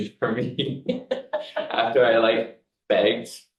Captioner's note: both laughing